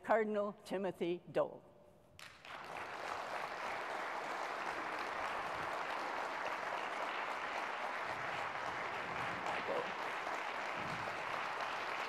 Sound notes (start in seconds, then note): 2.1 applause